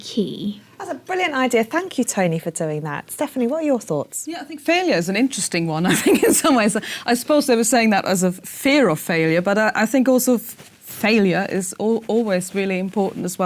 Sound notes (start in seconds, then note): 5.9 laugh